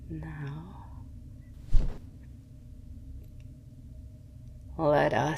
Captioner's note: wings unfurling